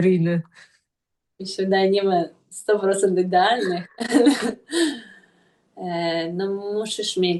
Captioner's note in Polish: śmiech